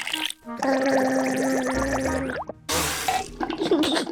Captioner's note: gargles